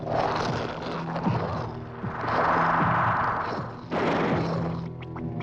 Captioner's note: estrondo de tiros